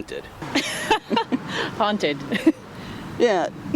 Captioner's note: laughs